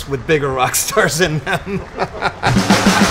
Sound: laughing; rock music

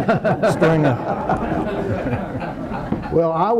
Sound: attendees laughing

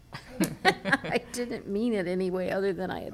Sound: laughing

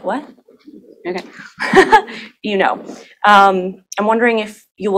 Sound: laughs

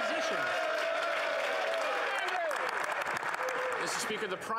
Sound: applause; speaking French

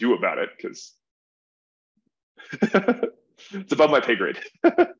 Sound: laughs

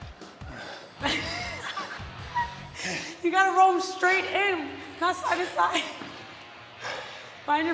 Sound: laugh

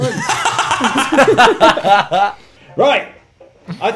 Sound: laughs

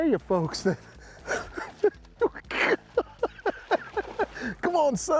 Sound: laughing

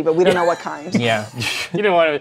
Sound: laughs

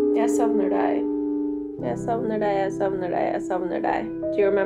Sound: Norwegian

